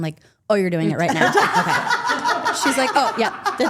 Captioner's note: group laughing